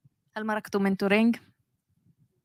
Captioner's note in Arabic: لغة أجنبية